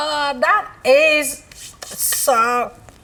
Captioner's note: smelling